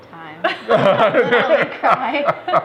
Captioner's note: laughter